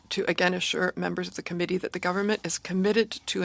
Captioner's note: speaking French